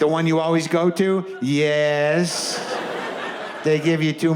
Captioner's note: audience laughs